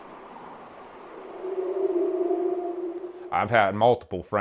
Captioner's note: creature howling